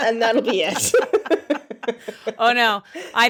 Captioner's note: women laughing